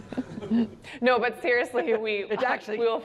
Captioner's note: laughter